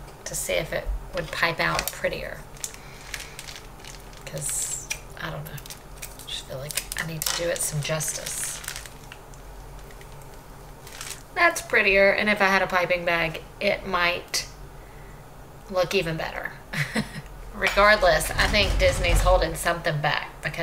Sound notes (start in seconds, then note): 16.5 chuckles